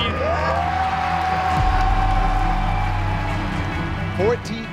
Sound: crowd cheering

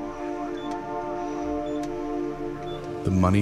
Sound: machine beeping

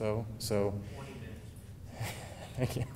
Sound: laughing

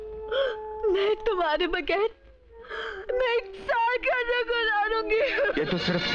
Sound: sobbing

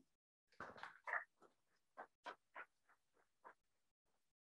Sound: crowd applauds

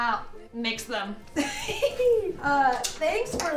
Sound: laughter

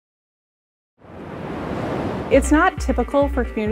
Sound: water flowing

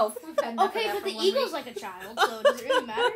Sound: laughter

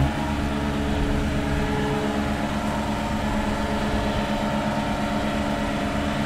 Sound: machine rumbling continues

